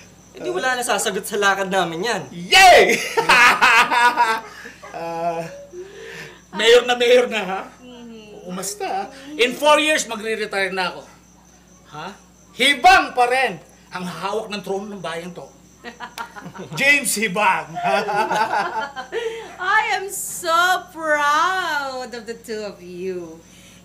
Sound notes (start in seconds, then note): 3.4 laughs; 15.8 laughs; 17.6 laughter